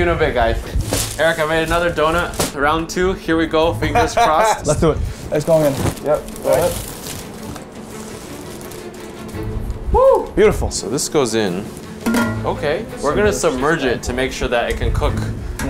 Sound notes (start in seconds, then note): 3.9 laughs; 7.2 intense music